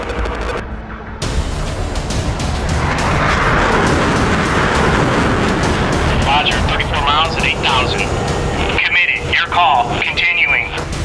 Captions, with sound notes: (dramatic music) (jets blasting) - Roger, 34 miles at 8,000. Committed, your call, continuing.